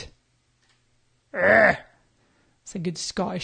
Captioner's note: groans